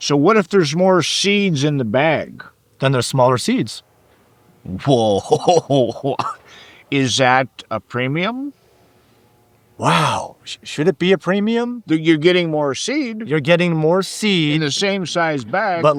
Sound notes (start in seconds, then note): 4.7 laughing